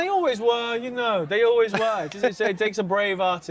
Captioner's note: laughs